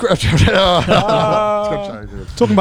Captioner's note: all cheering